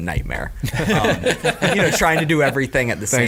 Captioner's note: laughing